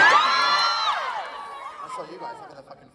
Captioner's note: audience Cheers